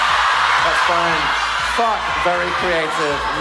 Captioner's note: audience shouting